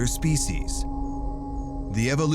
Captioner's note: crickets chirping